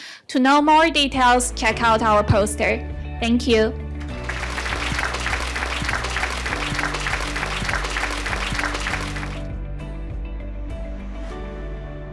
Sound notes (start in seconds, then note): 4.0 applause